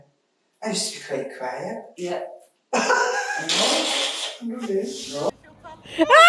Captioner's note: laughter; group laughing